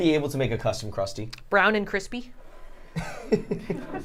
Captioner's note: laughs